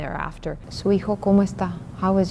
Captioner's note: speaking Spanish